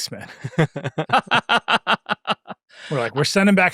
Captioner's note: laughing